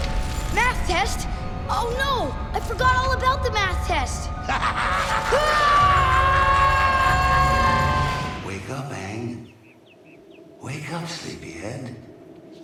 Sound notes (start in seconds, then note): 4.4 laughing; 4.8 screaming